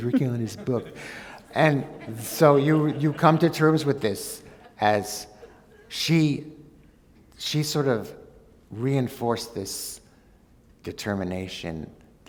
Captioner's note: laughter